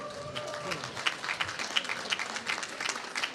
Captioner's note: applause